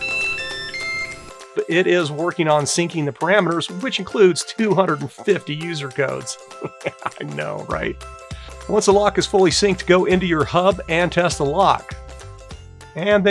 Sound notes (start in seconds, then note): 0.0 beeping; 6.5 laughing